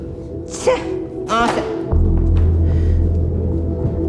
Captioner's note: Sofia scoffs